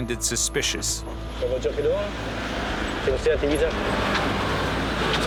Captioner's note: French spoken audio